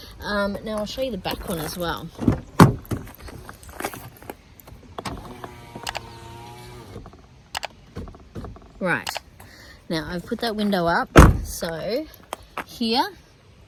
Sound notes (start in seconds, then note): 2.1 car handle clunks; 5.0 electric window whirrs; 11.1 car door slams